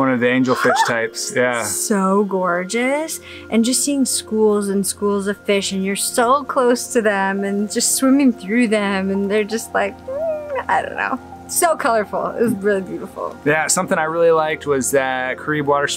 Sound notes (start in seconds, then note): 0.5 excitedly gasps; 8.4 hums happily